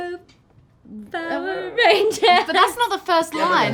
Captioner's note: laugh